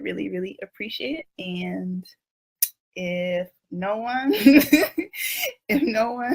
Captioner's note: laughs